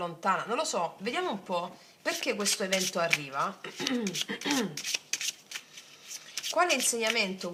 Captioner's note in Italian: schiarire la voce